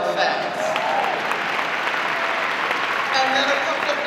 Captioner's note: audience applause